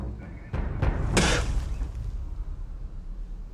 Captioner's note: spits